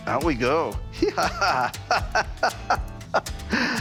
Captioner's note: laughs